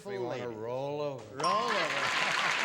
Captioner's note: applause; bell